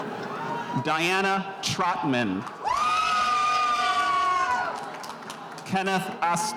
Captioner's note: spectators cheering